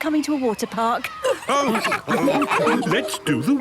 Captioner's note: all laughing